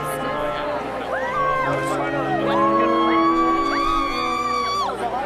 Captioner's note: whooping